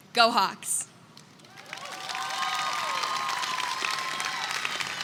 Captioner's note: attendees clap and cheer